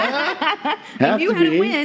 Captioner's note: laughing